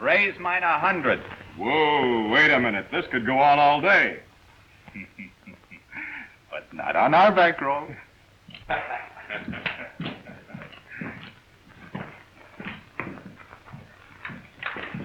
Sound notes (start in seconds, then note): 8.5 men laughing